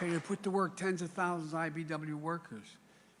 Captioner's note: applause